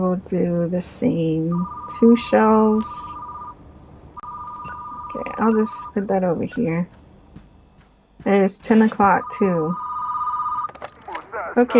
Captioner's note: phone rings